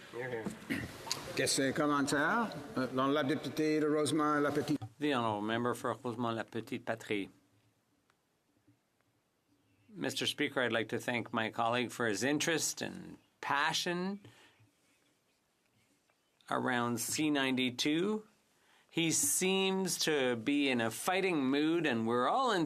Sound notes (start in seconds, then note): 14.1 speaking French